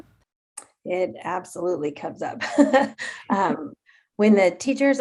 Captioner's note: chuckles